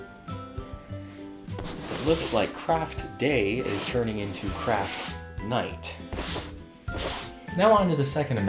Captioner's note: sweeping